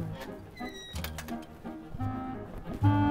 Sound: fence squeaks; mischievous music playing

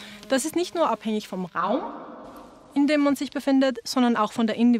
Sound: reverberation

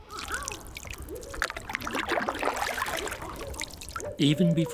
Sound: bird calls, splashes, owls

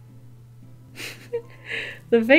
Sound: laughs

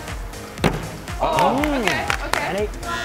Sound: applause

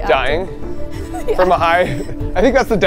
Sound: laughing

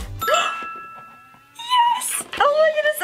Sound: ding

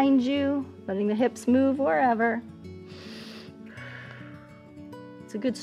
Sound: inhales and exhales

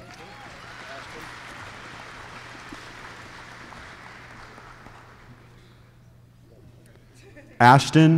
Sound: applause

